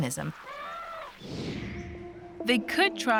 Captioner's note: elephant trumpets